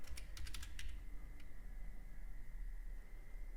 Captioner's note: typing